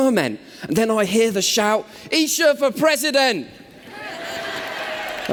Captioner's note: cheers